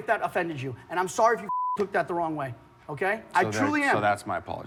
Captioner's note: beep